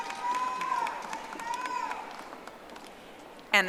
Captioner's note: audience applauding